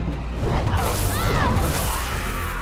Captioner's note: fire roaring; Dion screaming; person screaming